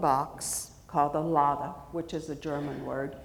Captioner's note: speaks foreign language